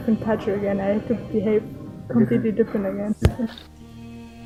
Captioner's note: laugh